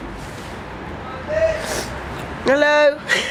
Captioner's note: man shouting